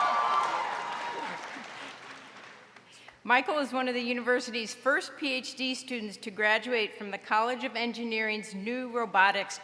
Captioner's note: applause